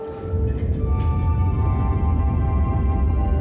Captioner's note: rumbling